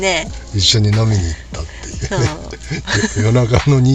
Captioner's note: laughs